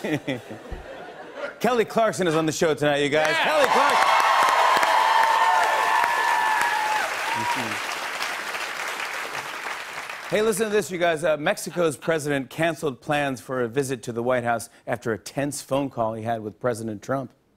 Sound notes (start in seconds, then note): 0.0 laughter; 3.2 cheers and applause